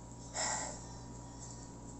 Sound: sighs

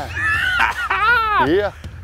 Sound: laughs

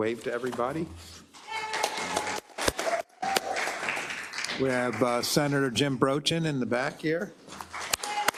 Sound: applause; applause

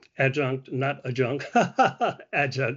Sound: laughter

